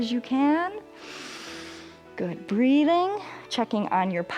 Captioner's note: inhales